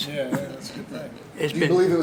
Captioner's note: laughter